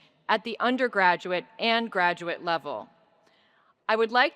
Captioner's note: none